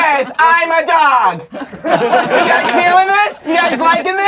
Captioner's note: crowd laughing